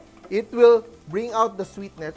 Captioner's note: sizzle